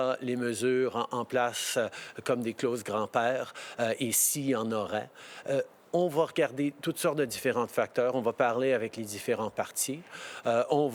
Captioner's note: speaking French